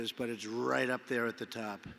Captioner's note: none